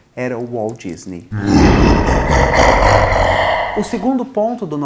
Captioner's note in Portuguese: risada capitalista